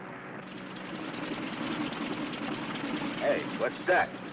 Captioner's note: engine sputters